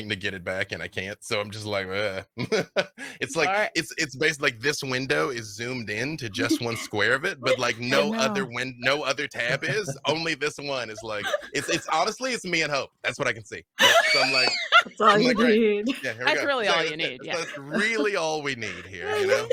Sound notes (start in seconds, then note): 2.4 laughing; 13.8 they laughs